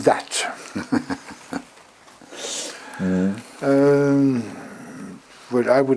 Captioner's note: laugh